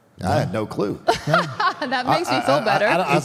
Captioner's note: Michelle laughs